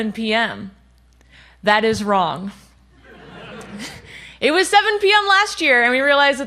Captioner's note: laughter